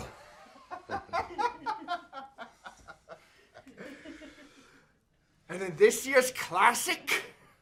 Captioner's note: laughter